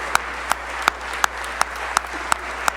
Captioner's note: applause